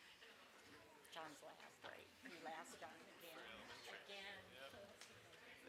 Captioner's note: speaks off microphone